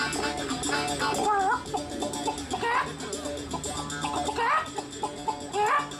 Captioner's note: imitating chicken bawking